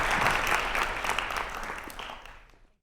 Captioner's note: applause